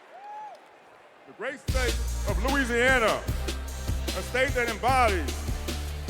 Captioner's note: cheers and applause